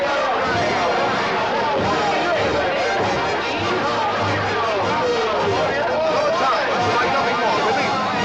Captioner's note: noisy celebration of Cyrano's defeat of 'a hundred' ruffians